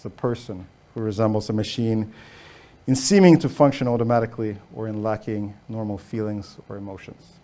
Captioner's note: none